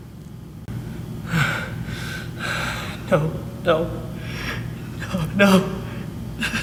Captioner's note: sighing and heavy breathing